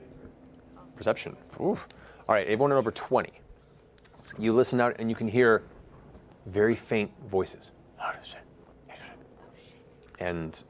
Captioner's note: whispering